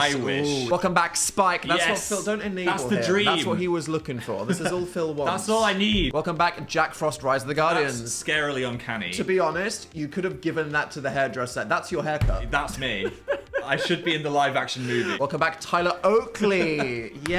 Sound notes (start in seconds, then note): 12.8 laughs